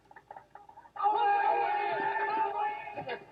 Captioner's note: yelling